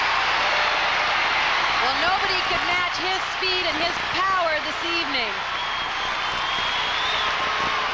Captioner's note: applause